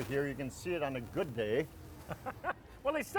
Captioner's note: laughing